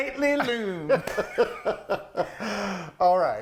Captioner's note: laughing